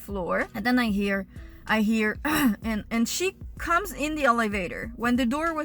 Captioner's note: cough